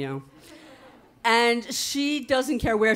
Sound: audience laughing

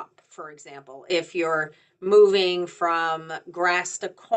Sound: none

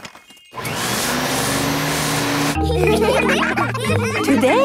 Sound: whirring; all laughing

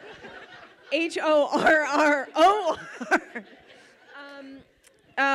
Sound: laughs

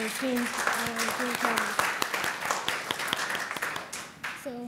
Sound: applause

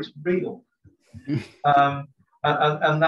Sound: chuckles

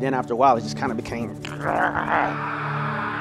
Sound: snarls

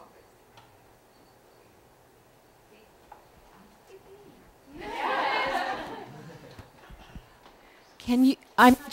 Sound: laughter

